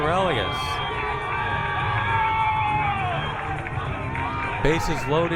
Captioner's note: crowd cheering